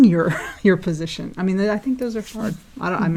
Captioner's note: laugh